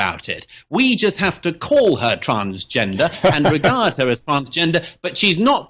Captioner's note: Harris laughs